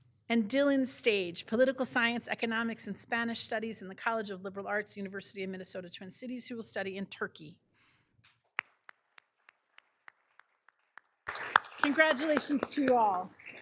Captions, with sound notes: And Dylan Stage, Political Science, Economics, and Spanish studies in the College of Liberal Arts, University of Minnesota, Twin Cities, who will study in Turkey. (all applauding) Congratulations to you all.